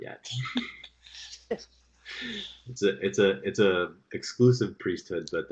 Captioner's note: laughter